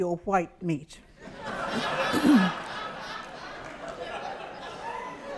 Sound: audience laughs

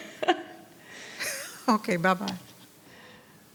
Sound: chuckling; laughing

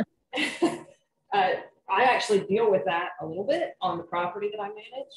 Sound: laughter

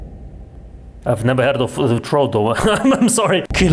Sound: chuckles

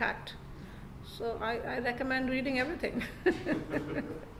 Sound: giggles

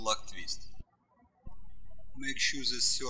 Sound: birds chirping

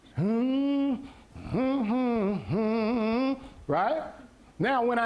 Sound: humming

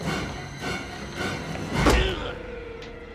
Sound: thudding

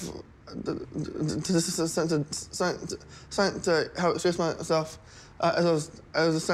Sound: stammers

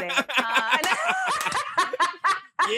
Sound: laughter

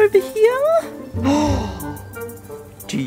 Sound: gasps

